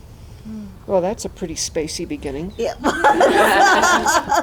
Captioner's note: laughter